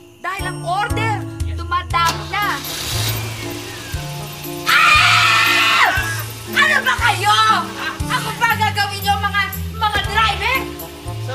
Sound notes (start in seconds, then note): 2.6 car engine starts; 4.6 Lupita screams